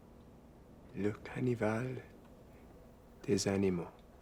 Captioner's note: French spoken audio